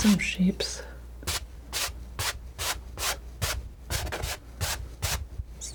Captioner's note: scratching